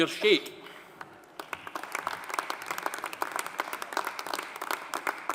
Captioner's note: audience applauding